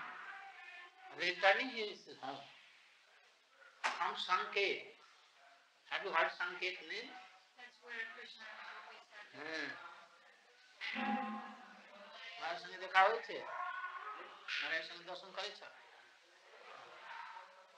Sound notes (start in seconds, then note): 2.7 Hindi; 11.9 Hindi